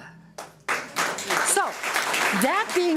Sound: audience applauds

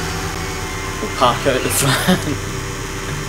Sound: laughs

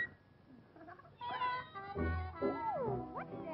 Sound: meow

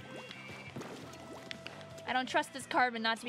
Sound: splashing; soft music

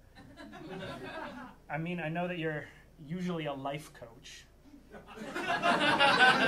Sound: audience lauging

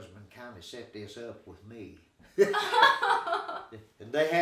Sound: laughing

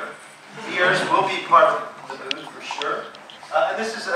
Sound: laughing

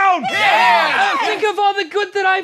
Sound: townspeople agreeing

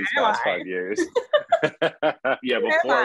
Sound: laughing

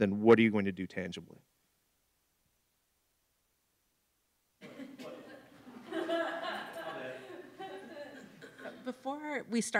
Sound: laughter

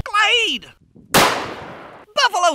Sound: gun fires

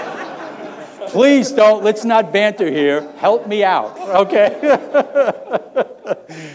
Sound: laughter; laughter

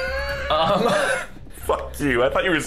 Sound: wheeze

